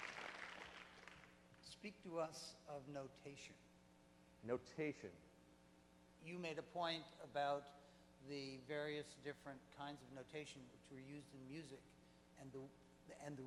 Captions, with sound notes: - [Voiceover] Speak to us of notation. - Notation. - [Voiceover] You made a point about the various different kinds of notation which were used in music.